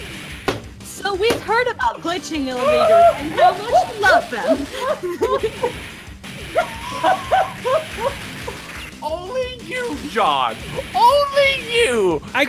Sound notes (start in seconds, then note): 6.5 laughing; 6.5 still laughing